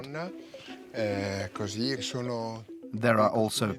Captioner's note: Italian spoken audio